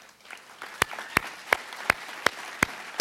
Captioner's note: applause